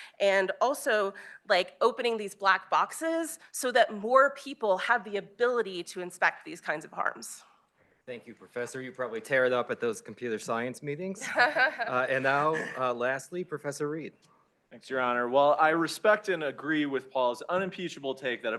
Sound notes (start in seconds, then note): 11.2 laughs